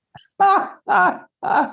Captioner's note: laughing